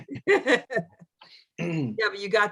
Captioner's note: laughter